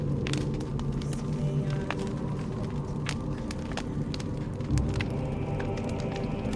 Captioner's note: chanting in foreign language; thrilling music